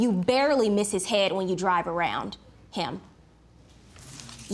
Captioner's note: none